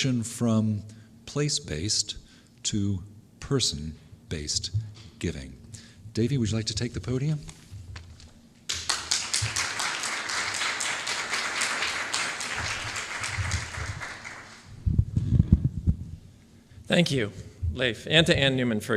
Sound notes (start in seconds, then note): 8.6 applause